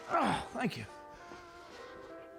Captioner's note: groaning